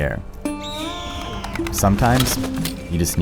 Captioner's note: bird shriek